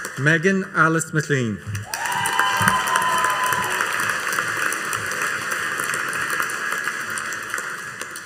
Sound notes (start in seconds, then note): 1.8 audience cheering and applauding